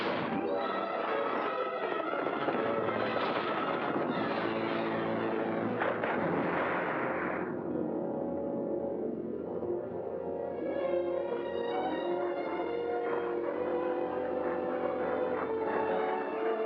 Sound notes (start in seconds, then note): 0.1 dramatic music; 5.8 loud splash; 8.7 ominous music